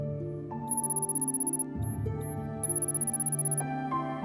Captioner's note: text whirring